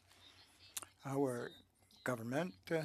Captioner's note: speaking French